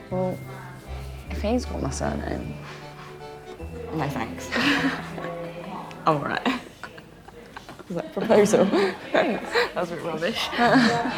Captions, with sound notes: - Well if he's got my surname... - No thanks. - (laughing) All right (laughing). - Was that a proposal? - Thanks. - That was a bit rubbish.